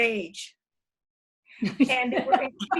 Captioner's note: laughter